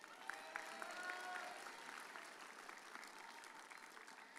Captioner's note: audience cheers